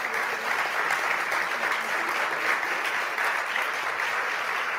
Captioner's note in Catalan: aplaudiments